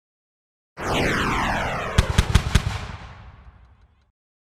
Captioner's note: whooshing